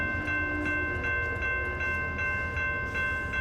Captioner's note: train crossing bells